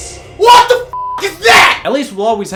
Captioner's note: beep